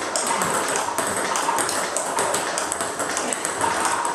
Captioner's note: ball ping pong hitting continues